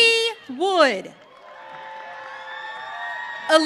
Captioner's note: audience cheering